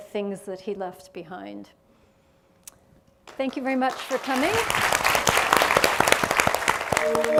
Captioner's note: applause